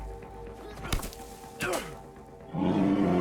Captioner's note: thud; grunting